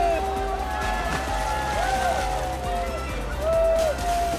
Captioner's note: crowd cheering